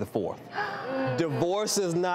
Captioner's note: audience gasping